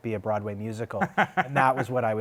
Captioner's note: laughter